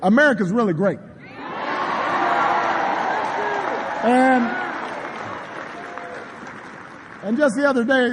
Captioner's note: applause